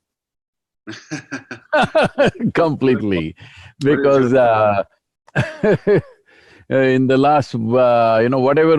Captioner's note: both laugh